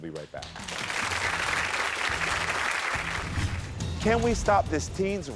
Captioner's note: crowd cheering